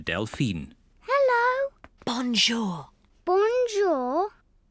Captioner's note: whispering